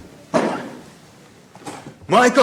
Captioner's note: thump